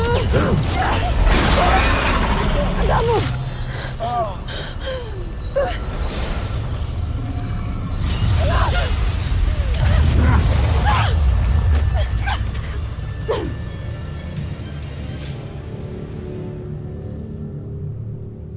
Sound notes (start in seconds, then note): 0.0 growls; 0.9 powerful blast-crackle; 4.0 groans; 4.7 grunts; 5.8 powerful whoosh-crackle; 7.8 growls; 7.8 spellbinding whoosh; 8.3 grunts & groans; 11.1 rousing music playing